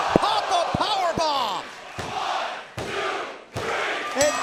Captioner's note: bell dinging